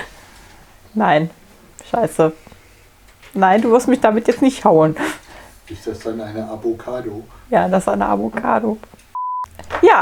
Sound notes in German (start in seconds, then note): 1.0 lacht; 4.9 Aus dem Off